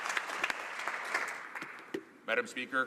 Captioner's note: applause